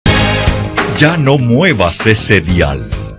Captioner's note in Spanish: Voz en off